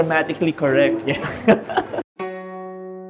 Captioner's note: laughs